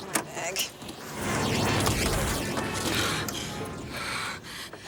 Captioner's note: dramatic music; horn honking; breathing heavily